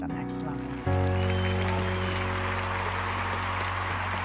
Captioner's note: attendees applauding